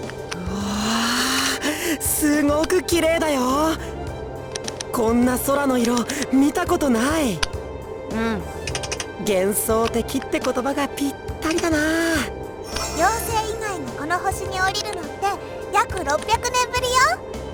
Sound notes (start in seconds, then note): 8.3 inattentive grunt